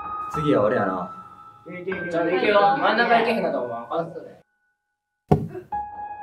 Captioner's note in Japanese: 盛り上がる声; ダーツの刺さる音